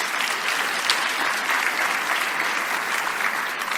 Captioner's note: applause